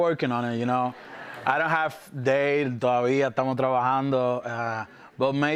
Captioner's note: speaks Spanish